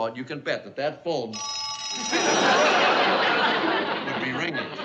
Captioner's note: phone rings